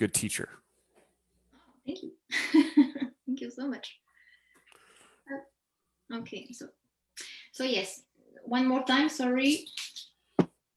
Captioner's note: chuckles